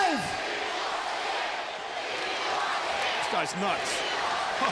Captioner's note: crowd cheering